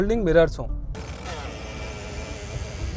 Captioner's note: mirror whirring